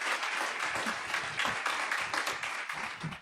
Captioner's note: crowd claps loudly